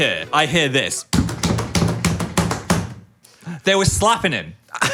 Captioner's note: slaps the chair